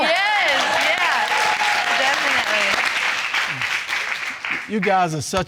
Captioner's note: all cheering